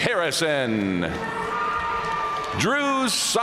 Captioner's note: audience cheering and applauding